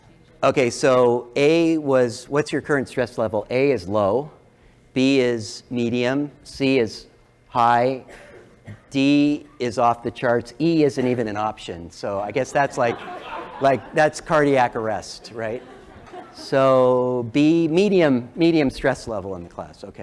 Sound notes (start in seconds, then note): 12.6 laugh